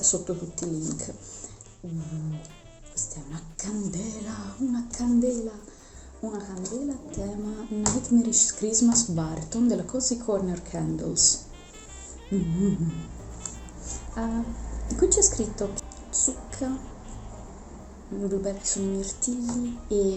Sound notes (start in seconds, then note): 11.9 sniffs